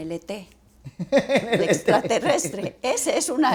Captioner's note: riendo